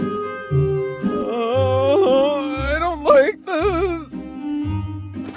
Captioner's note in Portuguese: medroso